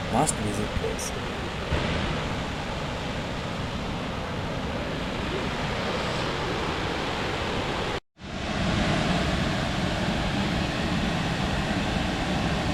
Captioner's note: roar of the waterfalls